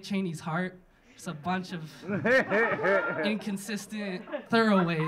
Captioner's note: audience laughing